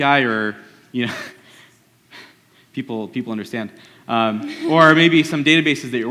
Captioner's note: laughs